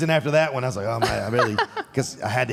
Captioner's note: Michelle laughs